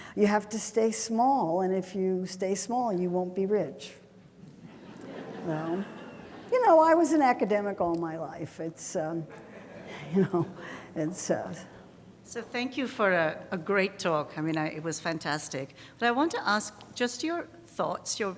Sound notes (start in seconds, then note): 4.6 audience laughing